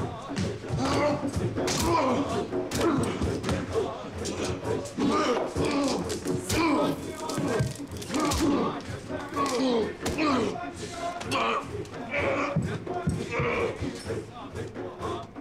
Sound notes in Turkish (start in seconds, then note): 0.5 Dövüş sesleri; 4.2 Bağırma sesi